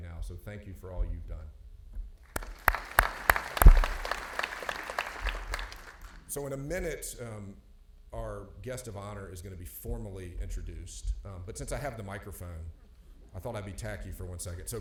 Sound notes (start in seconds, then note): 2.2 audience clapping